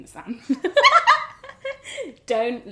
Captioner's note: both laugh